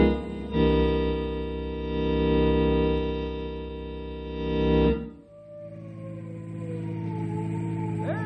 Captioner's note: siren